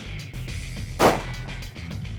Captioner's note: rock music plays; gun shot